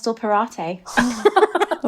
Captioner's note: laughing